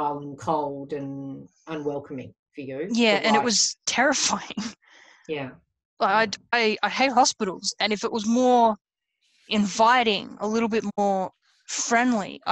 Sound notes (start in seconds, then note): 5.7 laughs